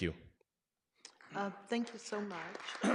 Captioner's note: clapping